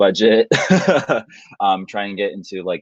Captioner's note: laughing